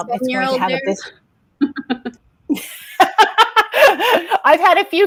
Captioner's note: laughs